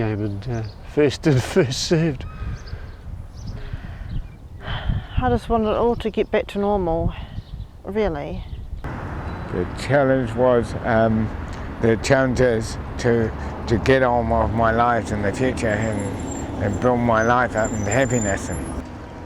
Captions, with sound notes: and first in first served. (sighs) I just wanted it all to get back to normal, really. The challenge was, the challenge is to, to get on with my life and the future and build my life up and happiness...